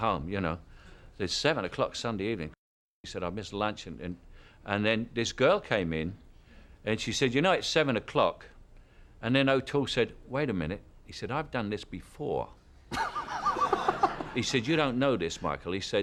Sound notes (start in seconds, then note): 12.9 laughter